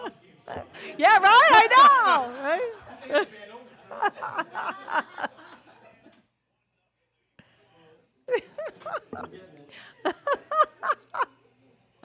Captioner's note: laughter